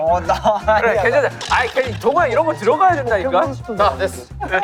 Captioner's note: arguing